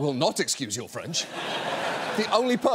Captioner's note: audience laughs